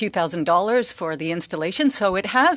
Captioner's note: speaking French